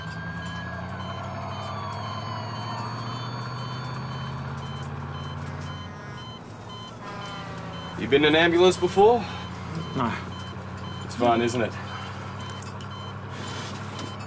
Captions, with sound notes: (monitors beeping)(sirens wailing) - Have you been in an ambulance before? - No - It's fun, isn't it?